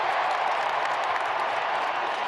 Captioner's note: applause